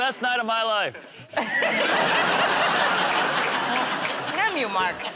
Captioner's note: laughter